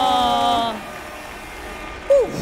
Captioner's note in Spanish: Aplausos